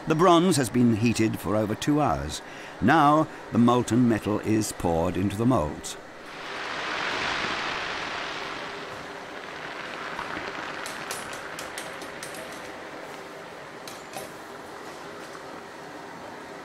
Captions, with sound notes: The bronze has been heated for over two hours. Now, the molten metal is poured into the moulds. (liquid roaring) (fire crackling)